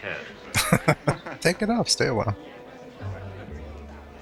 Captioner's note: chuckling